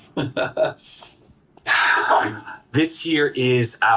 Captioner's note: chuckles; exhales